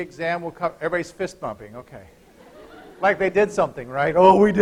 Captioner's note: laughter